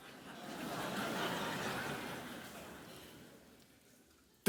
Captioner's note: audience laughing